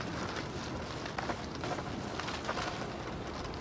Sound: rustling

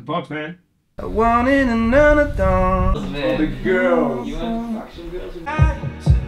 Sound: humming

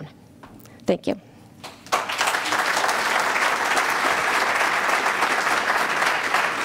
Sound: applause

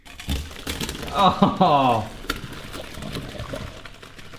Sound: laughs

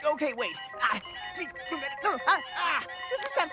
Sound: stuttering

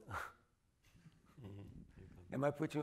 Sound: laughing

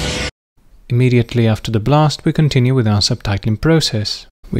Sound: blast

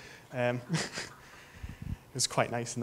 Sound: chuckles

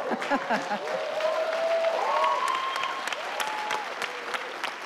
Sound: audience cheering

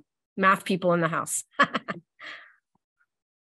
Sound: laughs

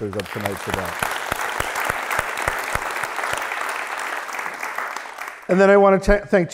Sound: applause

